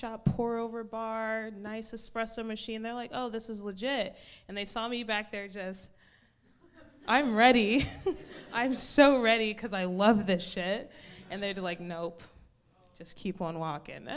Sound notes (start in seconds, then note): 7.8 laughs